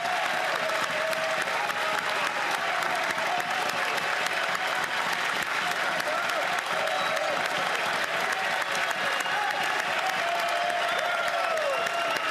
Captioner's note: cheering and Applause